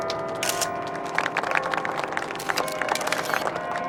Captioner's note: camera clicking; crowd applauding